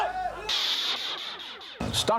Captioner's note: shouting